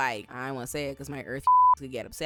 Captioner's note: beep